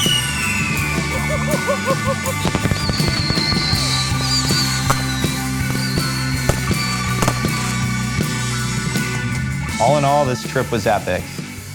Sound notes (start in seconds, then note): 0.1 fireworks; 1.0 laughter